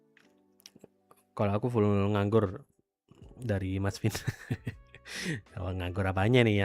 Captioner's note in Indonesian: tertawa